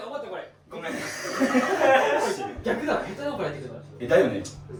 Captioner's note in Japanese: 笑い